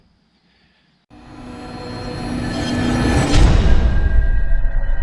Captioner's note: machinery whirring